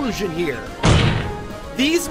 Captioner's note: slam